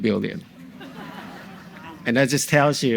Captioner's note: audience laughs